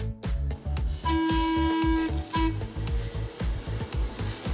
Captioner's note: trolley horn